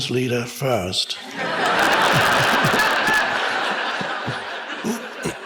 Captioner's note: audience laughs